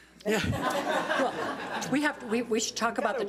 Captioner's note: all laughing